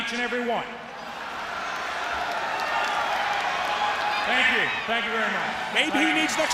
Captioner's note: crowd cheering